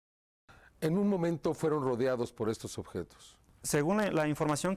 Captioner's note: in vreemde taal